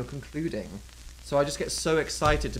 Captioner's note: none